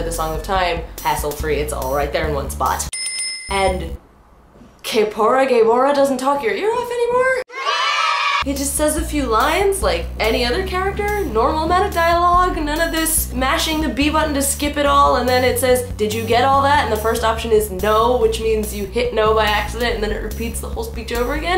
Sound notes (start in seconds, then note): 7.4 children cheering sound effect